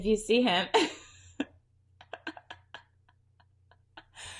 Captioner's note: laughs